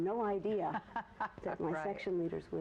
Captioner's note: laughs